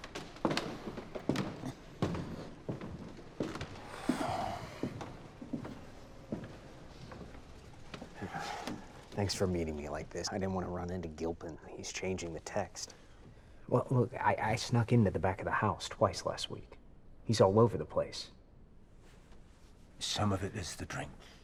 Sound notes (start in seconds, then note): 0.2 floorboards creaking underfoot; 3.7 Eugene sighing